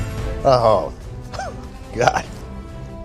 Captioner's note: laughs